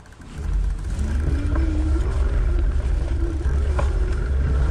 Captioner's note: bicycle clinking